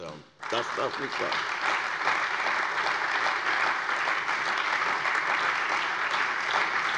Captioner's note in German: Beifall bei der CDU und dem BÜNDNIS 90/DIE GRÜNEN sowie bei Abgeordneten der SPD